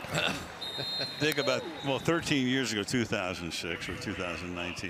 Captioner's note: laughs